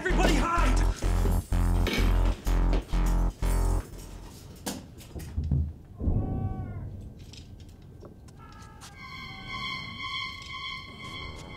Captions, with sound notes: - Everybody hide. (hangers rattling) (man screaming) (intense music)